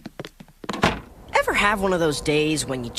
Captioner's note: door shutting